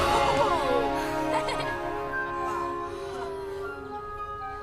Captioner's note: laughs